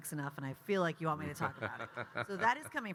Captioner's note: Kyle laughing